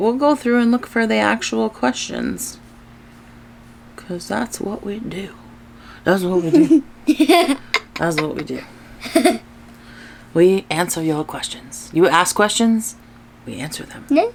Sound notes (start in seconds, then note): 9.0 laughs